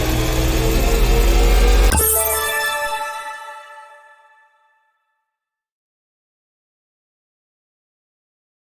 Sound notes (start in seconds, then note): 1.8 chime ringing